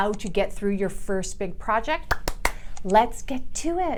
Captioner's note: claps